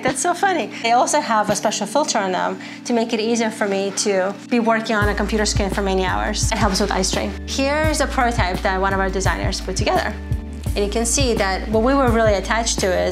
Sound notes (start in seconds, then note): none